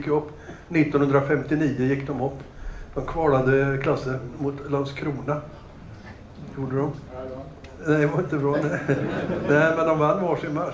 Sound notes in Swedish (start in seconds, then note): 8.5 Skratt